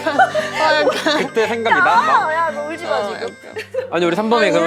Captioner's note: getting choked up while talking